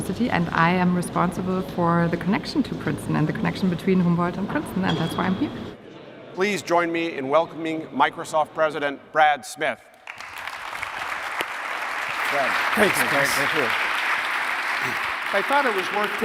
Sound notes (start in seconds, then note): 10.0 applause